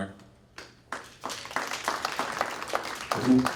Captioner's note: applause